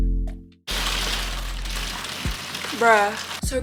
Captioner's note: rain pattering